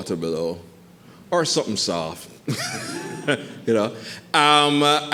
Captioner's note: laughs